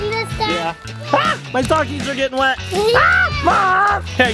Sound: screams

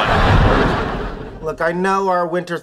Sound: air whooshing

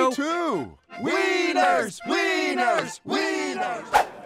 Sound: chanting

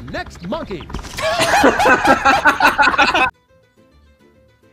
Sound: laughing

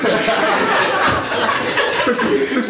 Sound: audience laughs

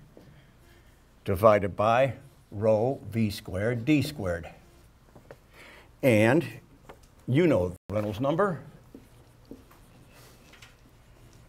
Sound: audio cuts out here

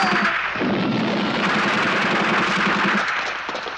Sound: gunfire

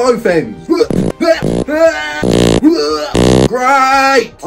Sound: farting; heaving

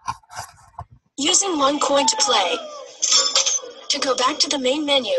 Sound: voiceover

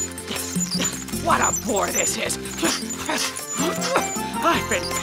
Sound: grunting; panting

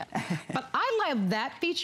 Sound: laughter

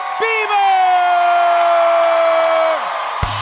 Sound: applause

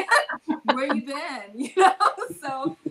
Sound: laughs

